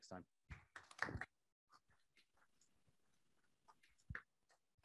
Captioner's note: audience applauds